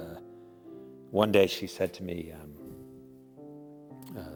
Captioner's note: none